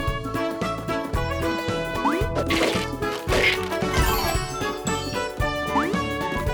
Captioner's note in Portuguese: game audio